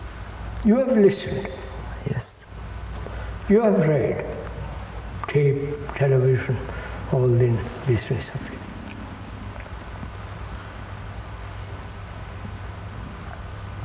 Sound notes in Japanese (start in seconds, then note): 5.7 録音